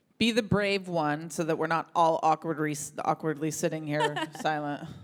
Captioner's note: audience laughs